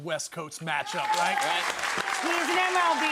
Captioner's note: audience clapping